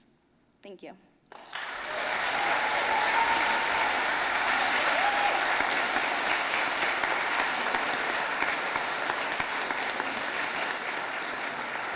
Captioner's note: audience applauding